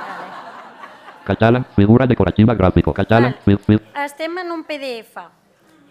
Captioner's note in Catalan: riures; veu robòtica